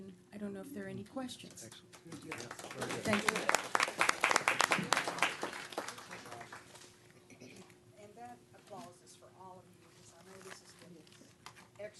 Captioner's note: applause